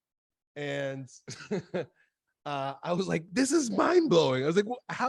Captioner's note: laughs